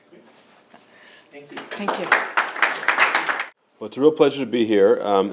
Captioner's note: group clapping